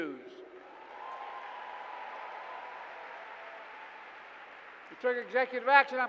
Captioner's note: applause